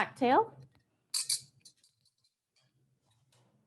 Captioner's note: chimes